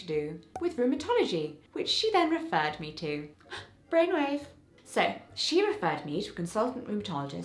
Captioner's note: gasp